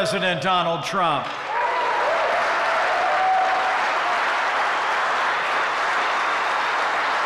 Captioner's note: applause